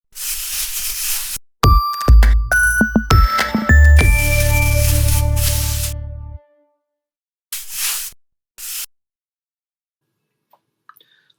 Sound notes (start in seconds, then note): 0.2 brush squeaking; 1.6 upbeat music